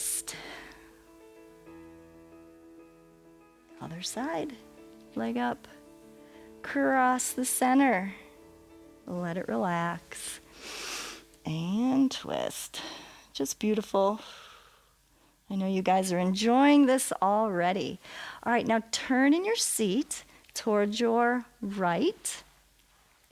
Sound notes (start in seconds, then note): 10.5 inhales; 14.2 exhales